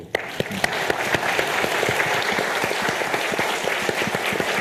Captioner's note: audience applauding